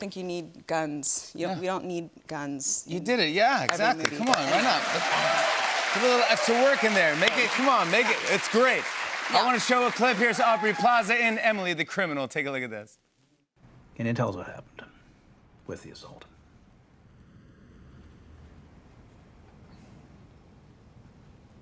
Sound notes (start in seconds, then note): 4.8 cheers and applause